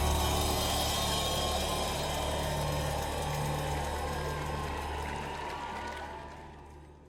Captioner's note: audience cheering